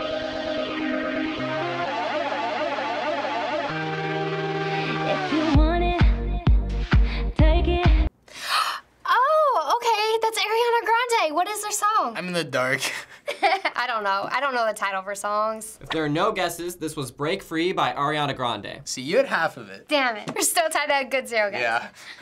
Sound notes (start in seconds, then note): 8.3 gasping; 13.2 chuckling